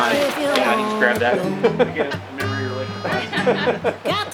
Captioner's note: laughing